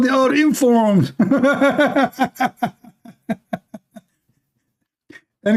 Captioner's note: Ketawa